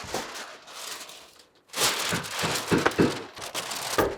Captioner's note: paper crunching; tool knocking